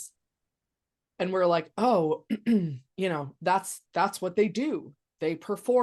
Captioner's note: clears throat